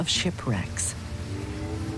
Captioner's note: ship horn